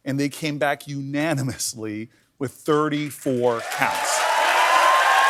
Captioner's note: cheers and applause